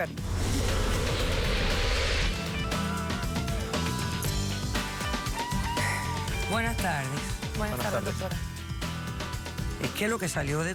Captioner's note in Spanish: exhala